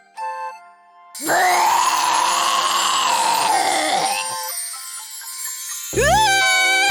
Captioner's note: throws up